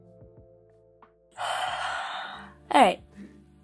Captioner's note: yawn